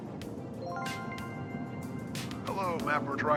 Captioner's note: upbeat alert